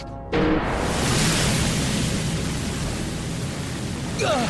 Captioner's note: liquid rushing; grunting